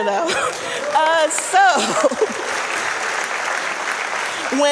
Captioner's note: audience applauding